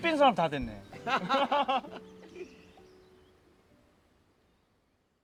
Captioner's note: everyone laughing